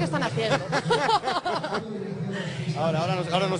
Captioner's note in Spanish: risas